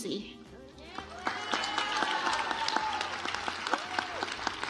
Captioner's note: audience applauds